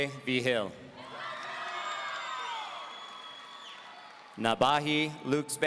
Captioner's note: audience cheering